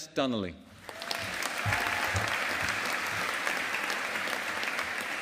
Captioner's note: audience applauding